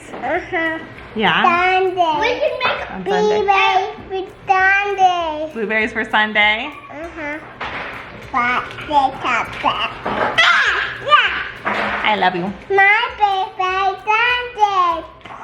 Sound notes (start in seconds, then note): 2.0 babbles; 8.4 babbles; 13.2 babbles